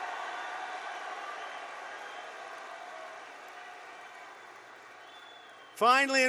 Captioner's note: applause